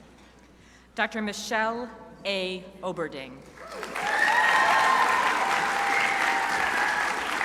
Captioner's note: crowd applauding